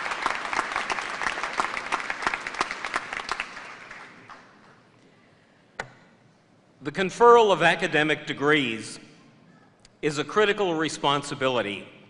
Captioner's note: applause